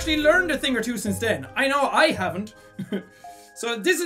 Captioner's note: giggles